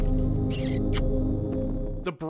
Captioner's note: smack